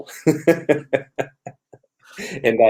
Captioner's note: laughter